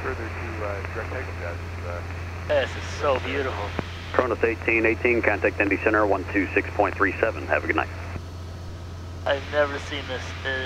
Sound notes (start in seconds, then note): 4.1 radio chatter